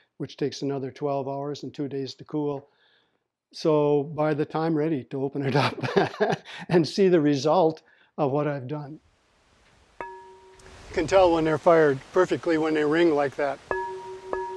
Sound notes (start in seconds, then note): 5.4 laughing; 10.0 ringing